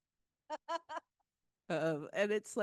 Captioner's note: laughing